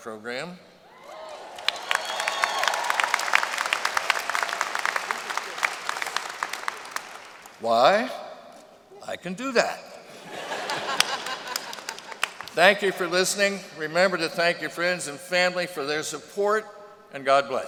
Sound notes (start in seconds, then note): 1.0 applause; 10.1 laughter